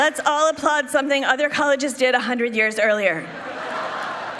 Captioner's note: applause